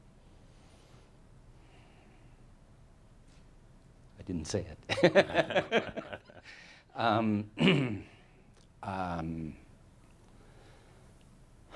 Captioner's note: they chuckle and sighs